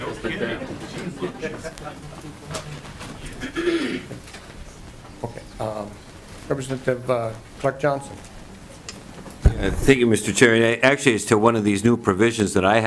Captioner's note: lauging